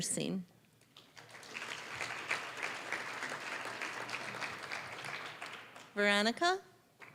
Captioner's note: applause